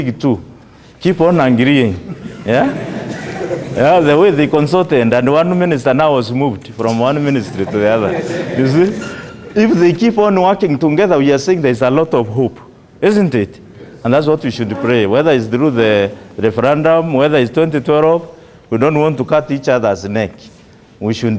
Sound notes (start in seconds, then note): 2.0 laughter